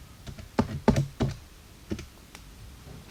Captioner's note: typing on calculator